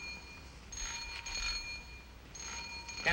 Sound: doorbell rings

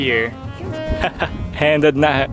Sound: chuckles

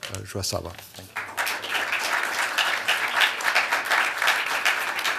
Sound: applause

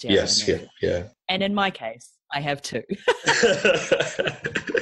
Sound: laughs

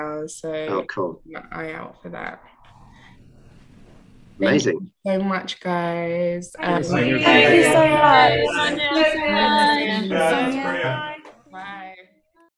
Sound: everyone chimes in

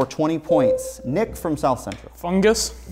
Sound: buzzer sounds

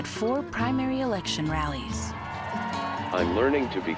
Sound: cheering

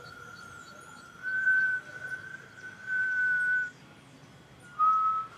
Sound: whistle

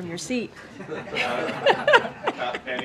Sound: laughter

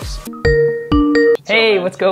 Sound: chiming bells

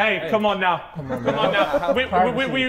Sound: Sidemen laughing

